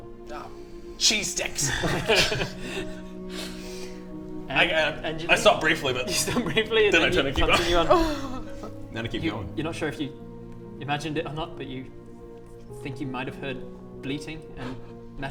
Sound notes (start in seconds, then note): 1.6 laugh of a monster